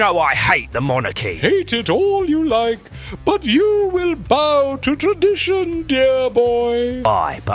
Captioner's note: pompous